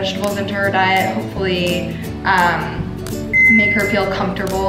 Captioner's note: oven beeping